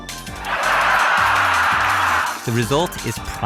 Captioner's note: audience laughter